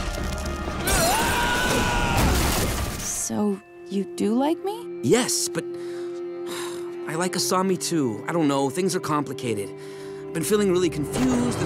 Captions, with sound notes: [screaming] So, you do like me? Yes, but... I like Asami too. I don't know. Things are complicated. I've been feeling really confused.